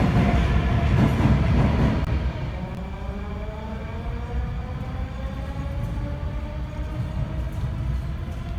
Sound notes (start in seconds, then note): 2.6 train leaves to the next station